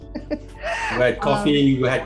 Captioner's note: laughs